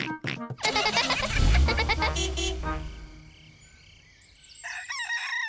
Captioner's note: horn toots; giggling